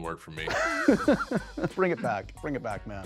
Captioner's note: laughs